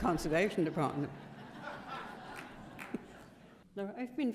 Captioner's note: laughter